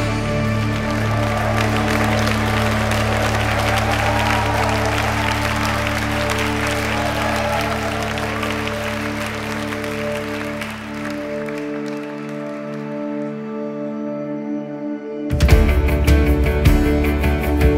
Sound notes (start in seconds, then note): 0.0 applause with cheering